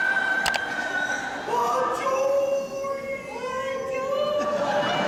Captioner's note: screams; foreign; audience laughing